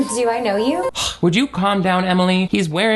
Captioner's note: chuckles; sighs